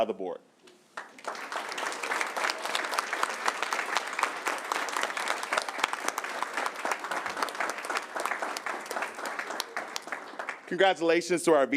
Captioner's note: applause